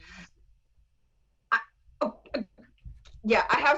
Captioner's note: video lags